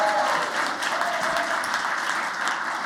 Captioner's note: applause